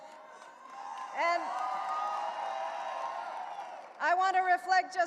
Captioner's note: audience cheering